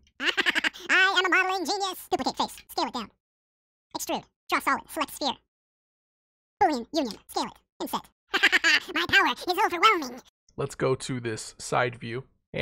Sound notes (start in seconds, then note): 0.2 more chipmunk laughter; 8.3 more high pitched chipmunk maniacally funny chipmunk laughter; 10.3 video slows back down to normal speed and voice